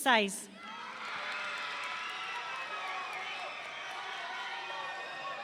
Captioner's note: audience cheering